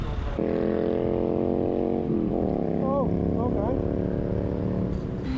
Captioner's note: horrible noise is from a bike to the left